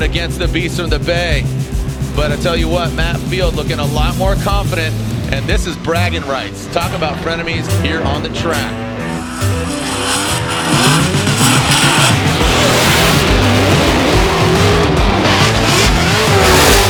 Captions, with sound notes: against the beast of the Bay, but I'll tell you what, Matt Field looking a lot more confident and this is bragging rights. Talk about Frenemies here on the track. (car engines roar) (dramatic music)